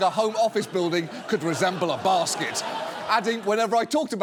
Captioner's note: audience laughing